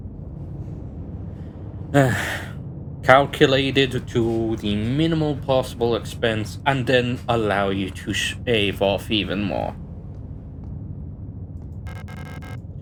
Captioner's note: sigh